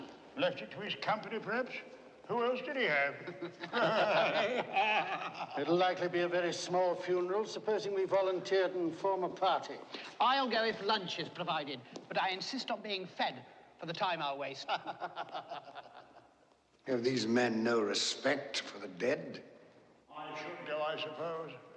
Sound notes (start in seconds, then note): 3.0 MEN LAUGHlNG